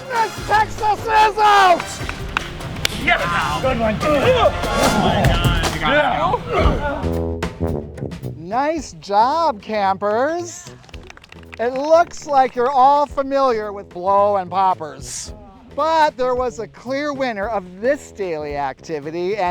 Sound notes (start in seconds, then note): 0.0 whistle blows; 4.9 campers conversing; 7.0 band music; 10.6 applauds